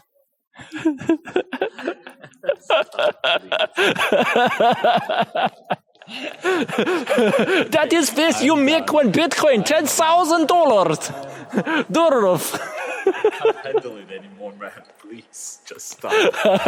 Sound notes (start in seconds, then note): 0.6 laughs